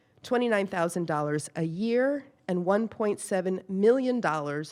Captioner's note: none